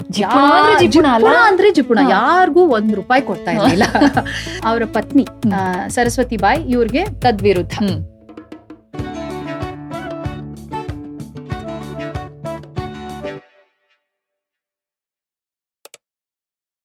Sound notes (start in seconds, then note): 3.6 child laughing; 10.0 background music